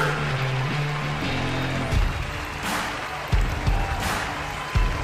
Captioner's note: audience applauding